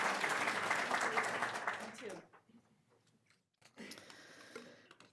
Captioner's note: audience applauding